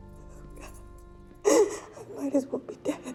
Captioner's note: sobs